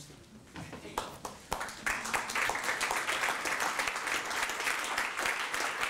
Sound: applause

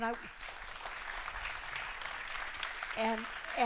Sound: applause

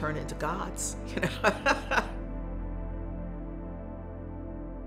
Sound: woman laughs

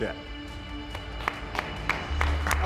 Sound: applause

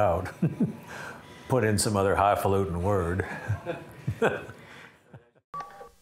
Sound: laughing; laughing

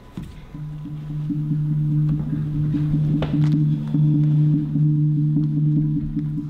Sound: dampened gongs sound

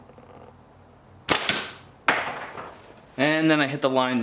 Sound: thwack

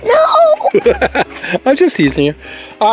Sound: Mr. Engineer laughs

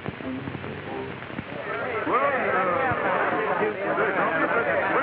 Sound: audience chatter

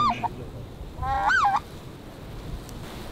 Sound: calling geese

